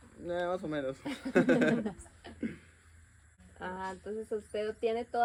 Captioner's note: laughter